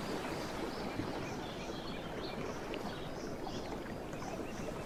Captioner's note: gentle waves